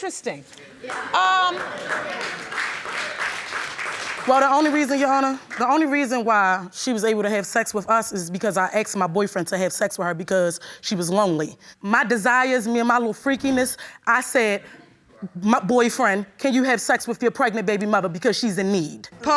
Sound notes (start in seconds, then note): 0.8 audience applauding